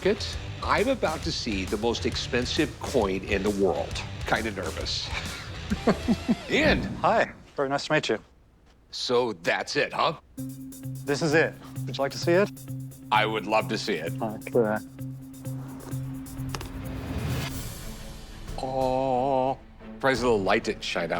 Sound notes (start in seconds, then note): 5.1 laughs